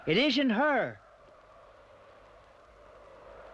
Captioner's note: wind howls softly